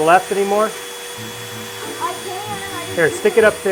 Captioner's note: Dremmel buzzing